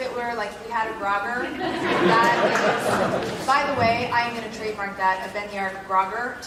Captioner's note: laugh